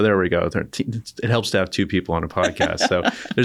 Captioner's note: laughter